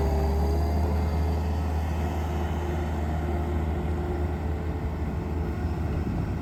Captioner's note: skid steer loader